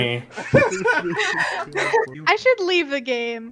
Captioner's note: everyone laughing